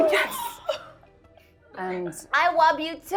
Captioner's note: laughing